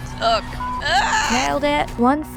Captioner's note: screaming intensifies